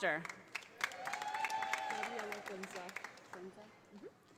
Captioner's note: audience applauding